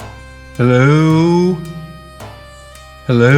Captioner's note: echo